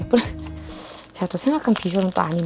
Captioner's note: inhale